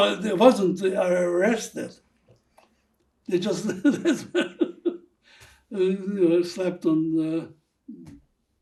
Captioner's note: laughing